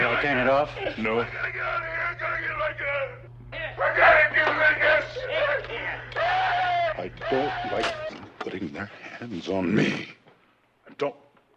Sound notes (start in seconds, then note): 4.7 Barney voiceover screams